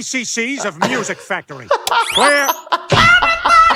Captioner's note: laughing